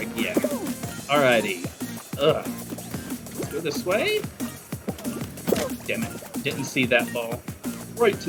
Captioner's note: groan